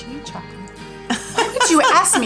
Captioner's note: laughing